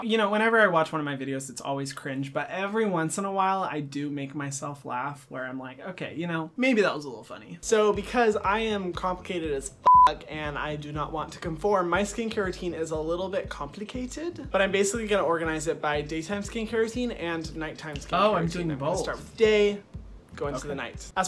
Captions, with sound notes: You know, whenever I watch one of my videos it's always cringe. But every once in a while I do make myself laugh where I'm like, okay, you know, maybe that was a little funny So because I am complicated as (beeps) and I do not want to conform, my skincare routine is a little bit complicated, but I'm basically gonna organize it by daytime skincare routine and nighttime skincare routine. Oh, I'm doing both. Gonna start with day go into the night.